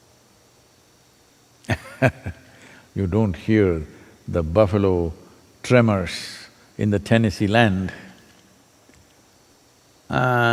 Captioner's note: laughs